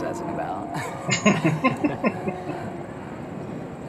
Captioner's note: laughing